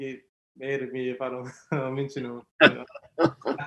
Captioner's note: laughs